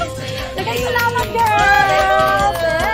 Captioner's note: clapping, cheering